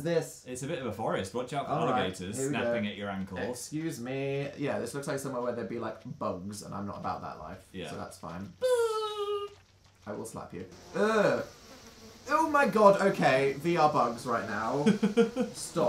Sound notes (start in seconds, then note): 10.7 whining bug noise; 14.8 laughing